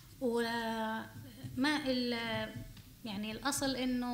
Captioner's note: speaking arabic